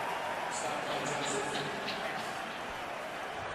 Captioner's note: stadium announcements